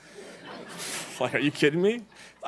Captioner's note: laughing